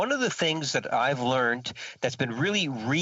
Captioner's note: speaking French